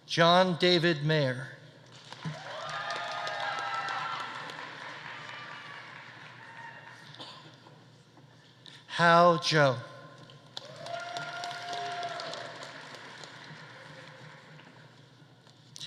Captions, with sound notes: John David Myhre. (audience applauding) (audience cheering) Hao Zhou. (audience applauding) (audience cheering)